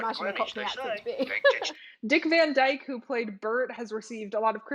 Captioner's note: laughs